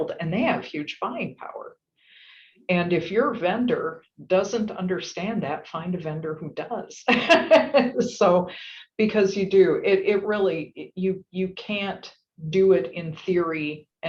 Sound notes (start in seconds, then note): 7.5 laugh